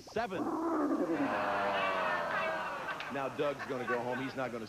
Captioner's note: dragon roars